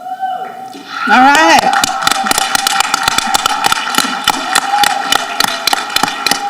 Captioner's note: people applauding and cheering